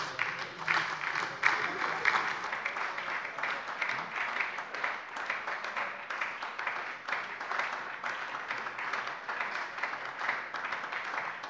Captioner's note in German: Anhaltender Beifall bei der SPD und der LINKEN